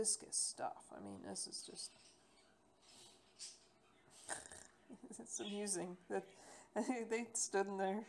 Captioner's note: snorts